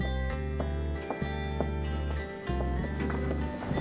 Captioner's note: elevator dinging